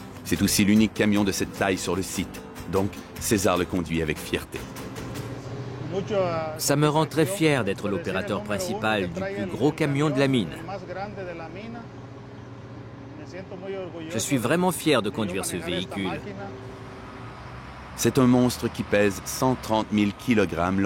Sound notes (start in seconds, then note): 10.6 audio in Spanish